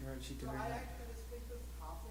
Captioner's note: voiceover